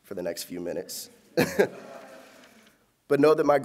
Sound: laughter

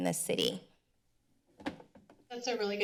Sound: thuds

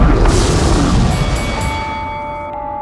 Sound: bell rings

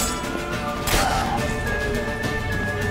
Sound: cries out

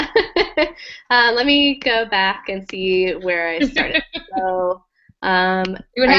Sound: laugh

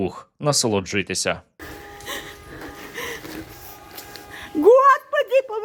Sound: breathing heavily

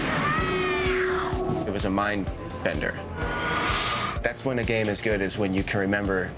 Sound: gunshot

